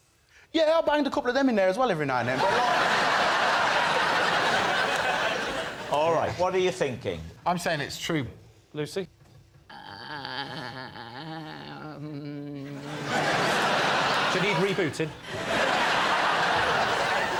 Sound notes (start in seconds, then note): 2.3 laughter; 9.0 laughter; 9.6 hums indecisively; 16.0 laughter